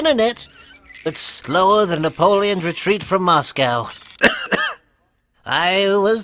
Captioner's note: coughing